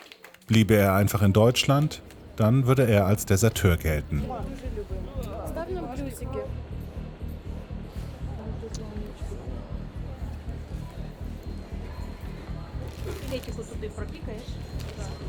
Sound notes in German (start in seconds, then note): 4.3 Sie sprechen Russisch; 6.3 Stimmengewirr; 10.3 Stimmen im Hintergrund